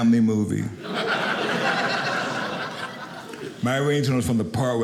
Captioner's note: audience laughing